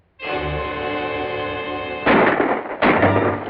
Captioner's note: gunshots